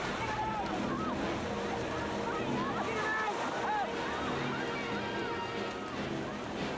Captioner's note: people yelling in panic on screen